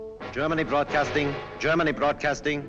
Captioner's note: radio broadcast